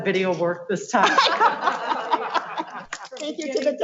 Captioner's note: laughs